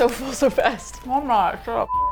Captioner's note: mouth full; laughs; indignantly